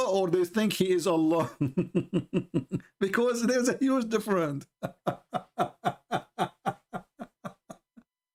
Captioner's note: Ketawa